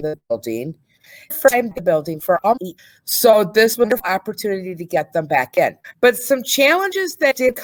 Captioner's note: audio distorts